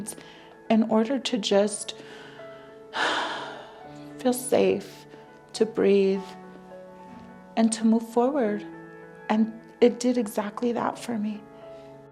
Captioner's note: deep breath